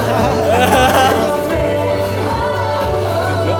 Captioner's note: genuine laughter